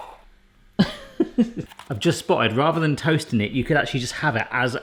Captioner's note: laughing